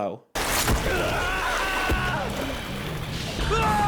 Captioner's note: Polnareff yelling; Kakyoin yelling